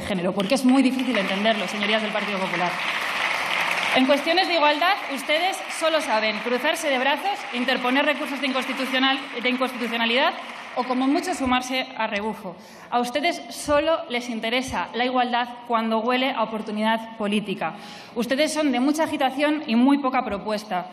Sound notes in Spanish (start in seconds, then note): 3.3 Aplausos